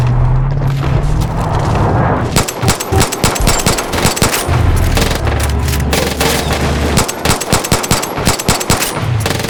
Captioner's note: ticking; gunshots